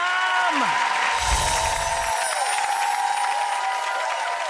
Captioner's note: audience cheering; audience clapping; bells chiming; audience cheering and clapping